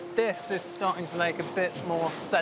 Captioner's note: gravel crunching